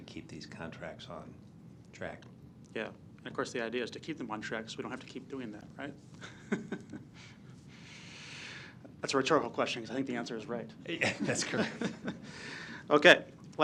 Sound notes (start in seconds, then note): 6.2 laugh; 11.0 laugh